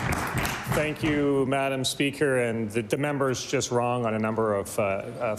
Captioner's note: applause